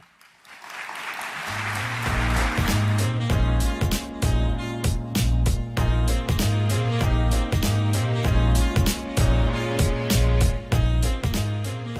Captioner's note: applause